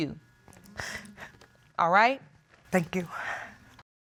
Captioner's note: tearfully